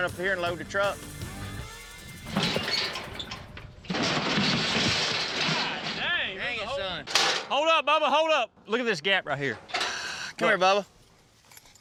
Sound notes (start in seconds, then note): 1.7 chute rattling